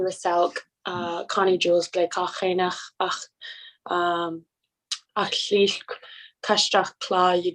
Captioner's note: foreign language